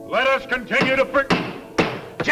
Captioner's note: gavel thudding